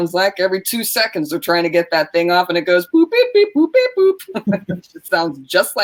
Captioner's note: makes beeping sounds